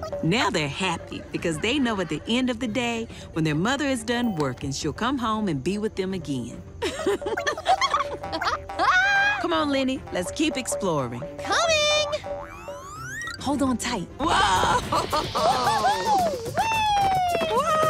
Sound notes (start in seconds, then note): 6.8 chuckling